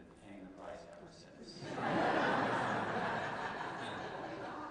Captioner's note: laughter